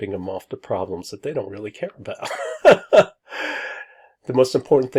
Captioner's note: laughs